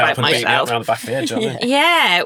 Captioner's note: group conversing